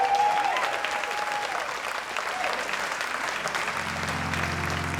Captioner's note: audience applauds and cheers